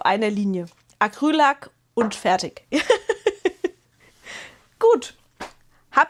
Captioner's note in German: gelächter